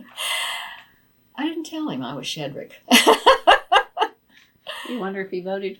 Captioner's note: laughs